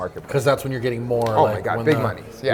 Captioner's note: laughs